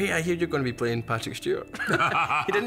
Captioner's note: both laugh